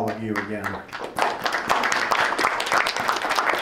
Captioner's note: clapping